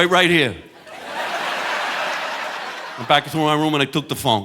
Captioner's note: audience laughing